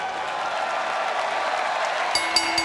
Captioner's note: bell ringing